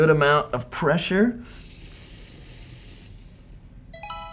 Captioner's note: hissing